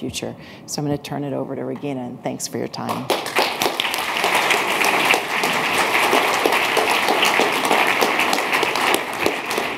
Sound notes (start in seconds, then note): 2.9 applause